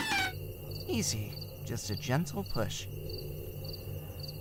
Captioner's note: TARDIS door opens